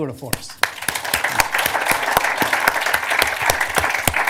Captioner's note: applause